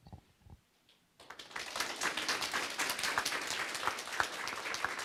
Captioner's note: applause